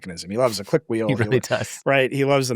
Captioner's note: laughs